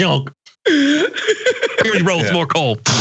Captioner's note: laugh